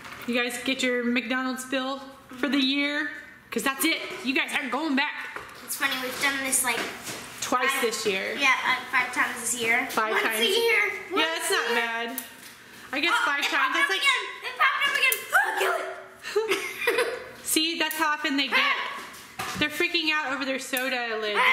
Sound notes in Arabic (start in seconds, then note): 18.8 الصراخ; 21.2 الصراخ